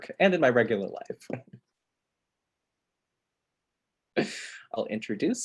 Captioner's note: laughs